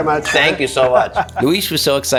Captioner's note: glasses clinking